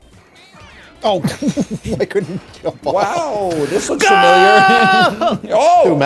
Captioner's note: inhales; chuckles